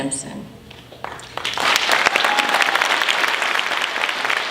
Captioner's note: applause